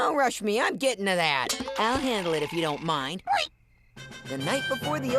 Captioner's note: oinking